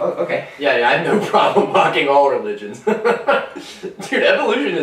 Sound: laugh

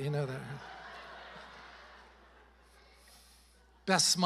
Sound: congregation laughing

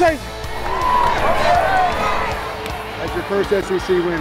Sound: cheering

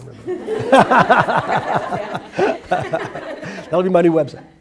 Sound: everyone laughs

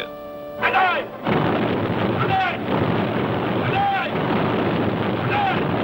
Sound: canons booming; yelling in foreign language; canons booming; yelling in foreign language

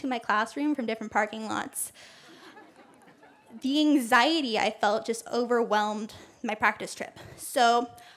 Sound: laughter

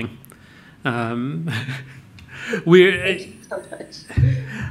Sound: chuckles

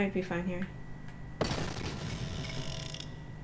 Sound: explosion

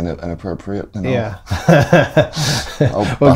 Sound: laughter

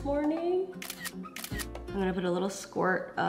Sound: camera clicking

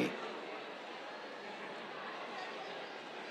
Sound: cheers

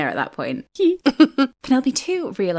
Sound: laughing

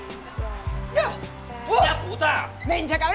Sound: boxing bell; girl shouts

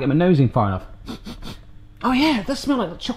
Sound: sniffing

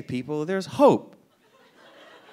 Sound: audience laughing

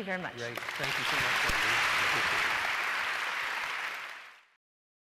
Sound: audience applauding

